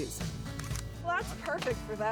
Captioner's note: camera clicks